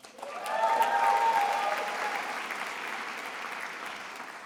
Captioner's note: attendees applauding